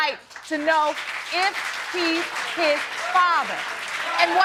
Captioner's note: audience cheering